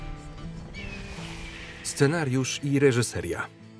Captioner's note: hawk screeching